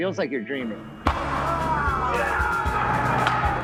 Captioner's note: loud crash of wheels hitting pavement; loud excited screams